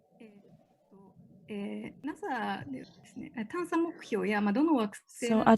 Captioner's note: speaking japanese